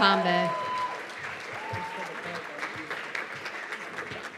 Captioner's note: cheers and applause